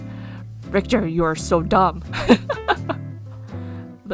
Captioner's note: laughs